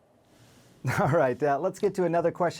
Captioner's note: chuckling